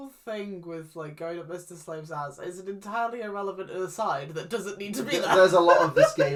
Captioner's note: laughs